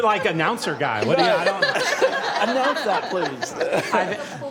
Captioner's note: laughter